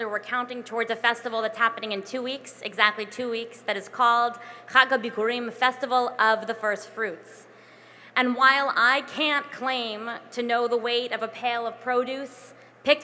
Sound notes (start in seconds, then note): 4.5 non-english